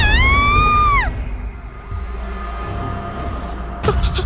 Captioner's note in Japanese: 叫び声